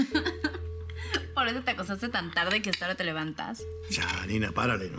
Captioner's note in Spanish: Risas